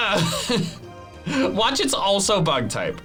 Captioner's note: laughs